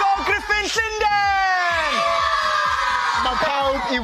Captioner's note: cheering